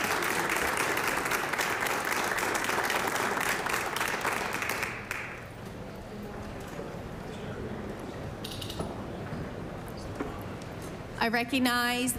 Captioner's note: applause